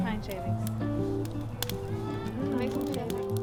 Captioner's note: fire crackling